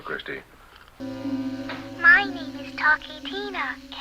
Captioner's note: crash